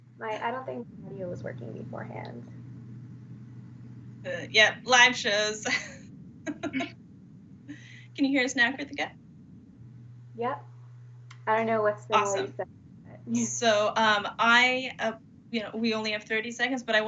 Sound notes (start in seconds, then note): 6.5 laughing